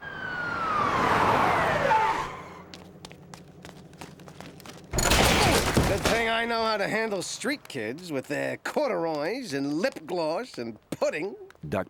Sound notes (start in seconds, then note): 0.0 siren blaring; 0.7 brakes screeching